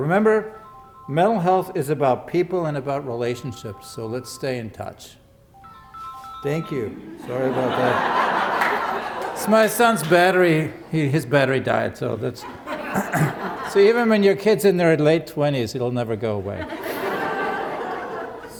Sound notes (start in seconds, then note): 5.1 phone ringing; 7.0 laughter; 16.5 laughter